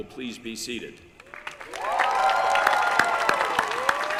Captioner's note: applause